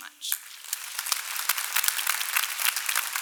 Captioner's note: clapping